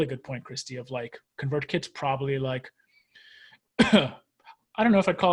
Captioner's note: coughs